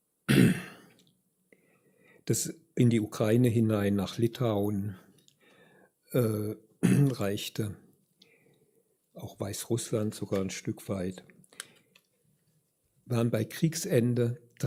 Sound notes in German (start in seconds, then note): 2.3 räuspern